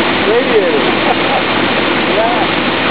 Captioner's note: chuckles